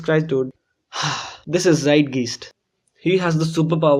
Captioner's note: sigh